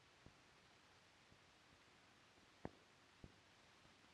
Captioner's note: none